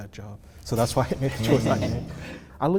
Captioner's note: laughter